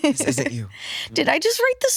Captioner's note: laughs